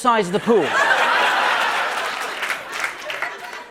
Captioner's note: laughter